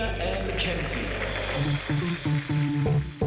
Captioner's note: applause